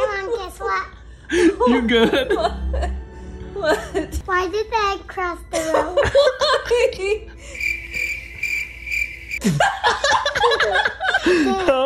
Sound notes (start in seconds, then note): 7.5 crickets chirping; 9.4 laughs harder